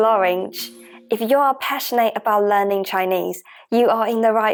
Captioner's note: Mandarin